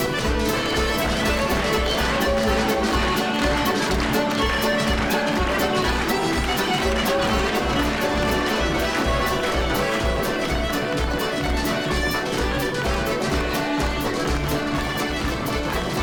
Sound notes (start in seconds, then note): 1.6 crowd clapping; 4.4 upbeat Scottish music